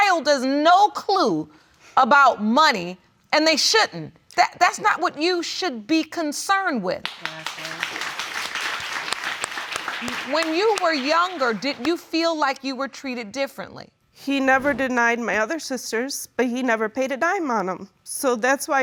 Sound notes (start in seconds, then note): 7.0 audience applauds